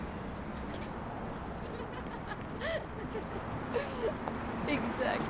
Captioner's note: Bea laughing